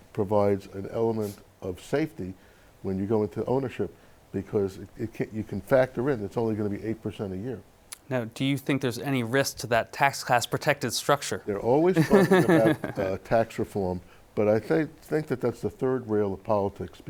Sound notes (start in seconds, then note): 11.9 laughing